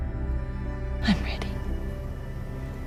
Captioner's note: voiceover